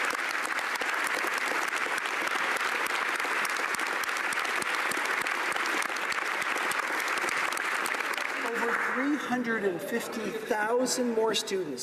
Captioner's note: applause